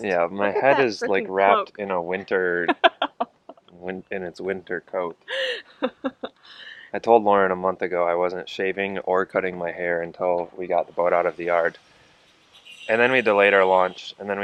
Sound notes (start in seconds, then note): 5.3 laughs